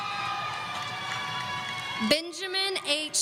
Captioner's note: audience cheering